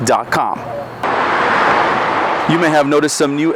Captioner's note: car engine revving